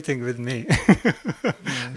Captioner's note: laugh